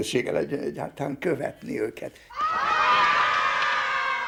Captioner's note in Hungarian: fiatal fiúk lelkes csatakiáltása